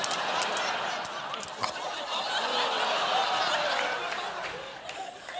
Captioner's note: laughter